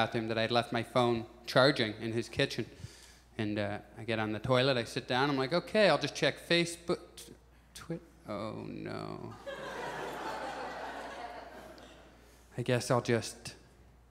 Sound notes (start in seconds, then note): 9.4 audience chuckles